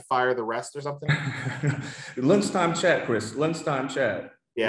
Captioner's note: laughs